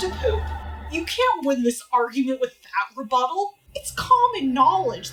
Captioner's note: L: scoffing